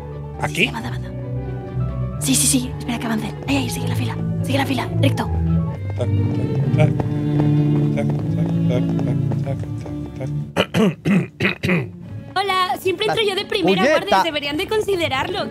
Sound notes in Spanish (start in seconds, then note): 6.0 tararea la música clásica; 10.5 carraspea